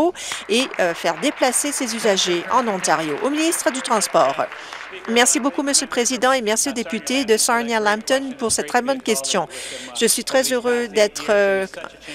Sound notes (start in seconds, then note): 3.7 some Applause